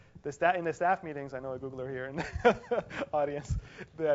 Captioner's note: laugh